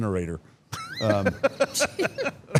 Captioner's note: Paul laughs; laughs